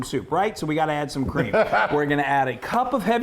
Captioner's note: laughing